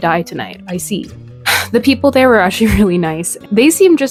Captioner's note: sigh